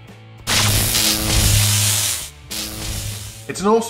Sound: lightning zaps

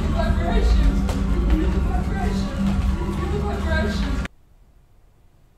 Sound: echoey distorted voice

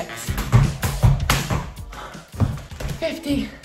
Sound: rope hitting ground

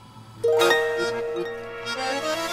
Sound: phone chimes

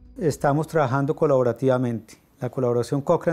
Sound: Spanish

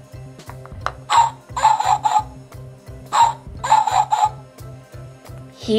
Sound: dog Sound

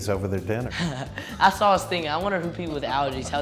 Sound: laughs

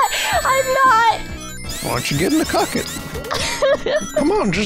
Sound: laughs; Col. Sanders voice; laughs; Col. Sanders voice

